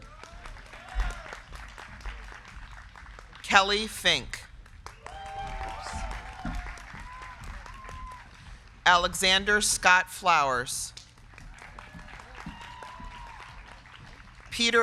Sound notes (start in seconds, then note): 0.0 crowd cheering; 0.1 crowd clapping; 4.8 crowd cheering; 5.2 crowd clapping; 10.8 crowd clapping; 11.3 crowd cheering